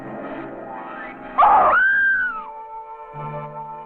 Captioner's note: Renee screaming